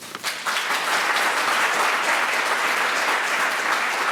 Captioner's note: applause